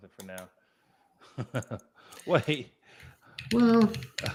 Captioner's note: laughs